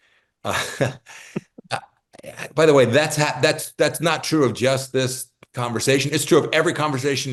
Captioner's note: laugh